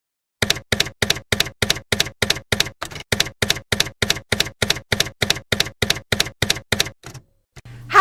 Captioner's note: typewriter keys clacking